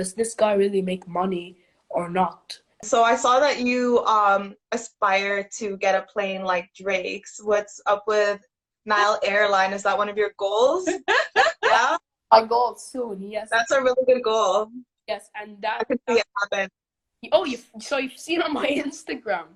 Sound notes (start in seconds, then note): 10.8 laughs